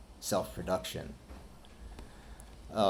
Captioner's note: none